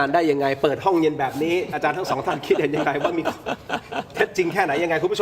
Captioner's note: laughs